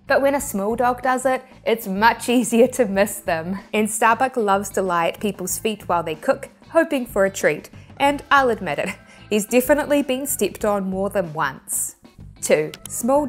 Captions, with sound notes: But when a small dog does it, it's much easier to miss them. And Starbuck loves to lie at people's feet while they cook, hoping for a treat. And I'll admit it, (chuckling) he's definitely being stepped on more than once. 2, (graphics clicking)